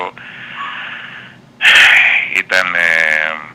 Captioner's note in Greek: ξεφυσάει; αναστενάζει